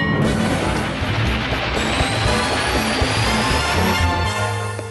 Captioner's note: whoosh!